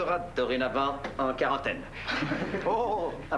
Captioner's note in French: Rires